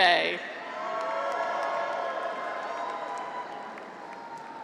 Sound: graduates cheer

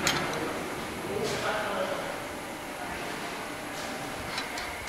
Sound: dull machine whirring, conversations in the background

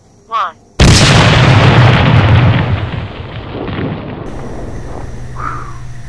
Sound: phone exploding

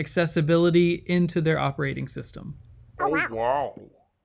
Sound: silly voices

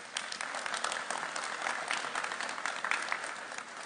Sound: applauding

